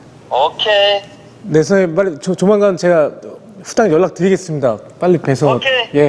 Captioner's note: speaking in gibberish